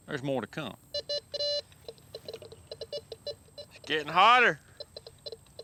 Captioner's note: beeps